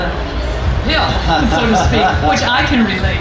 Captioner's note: laughing